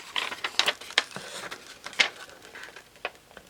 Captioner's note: paper crinkling